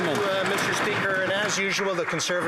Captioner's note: some Applause